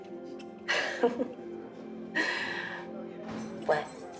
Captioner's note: Kimberly laughs